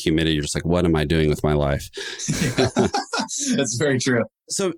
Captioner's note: chuckles